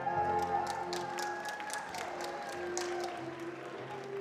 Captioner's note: attendees applauding